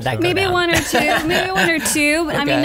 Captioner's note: laughs